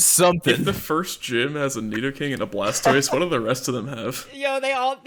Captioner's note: laughs